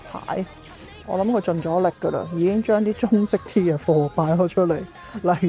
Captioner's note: laughs